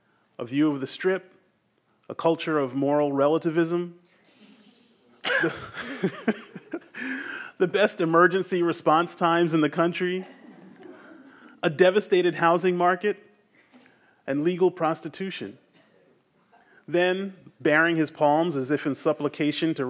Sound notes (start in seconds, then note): 5.2 everyone laughs; 10.1 audience members laugh quietly